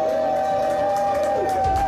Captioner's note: cheers and Applause